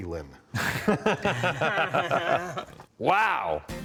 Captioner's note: laughing